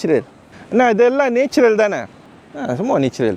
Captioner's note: speaking Tamil